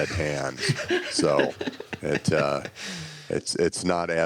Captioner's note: laughs